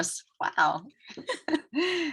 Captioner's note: chuckling